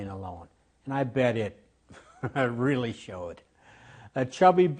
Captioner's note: laughs